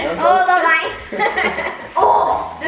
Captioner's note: laughs